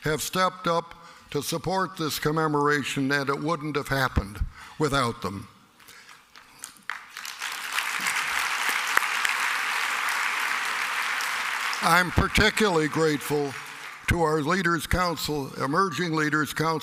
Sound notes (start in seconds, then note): 8.6 applause